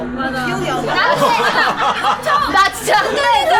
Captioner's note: laughing